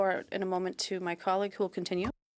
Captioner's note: speaking in French